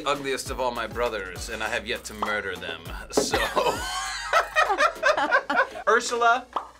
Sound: laughs

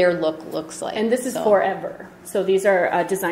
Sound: voiceover

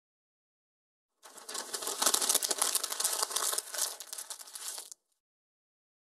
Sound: sound of paper

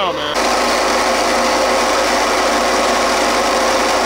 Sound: machine whirring

